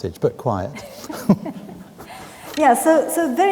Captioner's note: both laughing